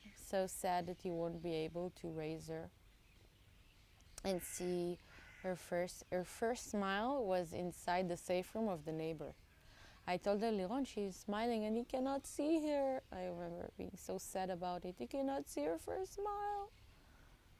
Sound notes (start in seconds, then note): 10.1 hebrew